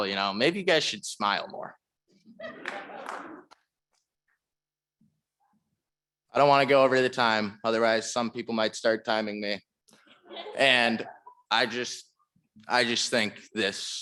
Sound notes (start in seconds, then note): 2.4 audience laughing